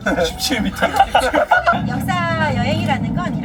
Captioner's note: laughs